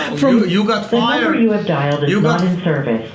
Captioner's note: voiceover